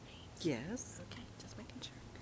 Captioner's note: participant chattering distantly